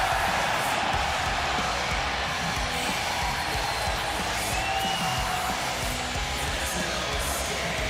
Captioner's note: cheers and applause